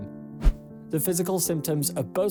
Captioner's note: screen swishes